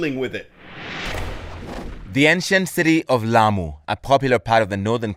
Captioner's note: voice-over